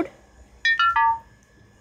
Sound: notification tone

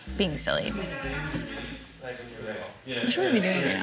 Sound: distant chatter

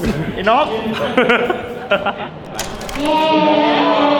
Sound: laughs

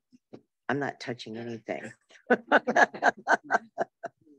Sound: laughs

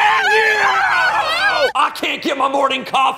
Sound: woman screaming

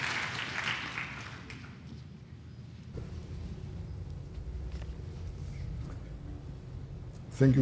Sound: applause

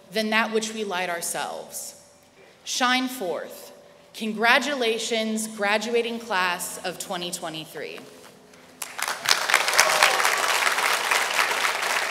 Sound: applause

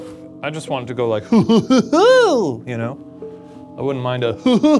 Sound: imitates Barney laughing

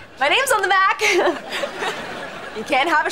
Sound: chuckles

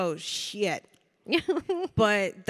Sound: Samantha chuckling

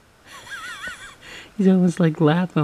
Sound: laughs

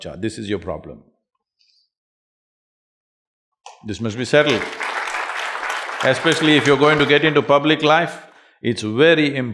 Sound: applause

